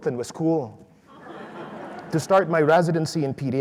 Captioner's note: audience laughs